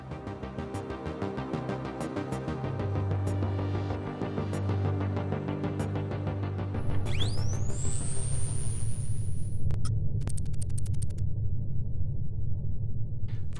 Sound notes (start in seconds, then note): 0.1 electronic music continues; 6.8 electronics powering; 10.2 electronic typing